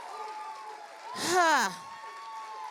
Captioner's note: cheering continues; exhales; cheering continues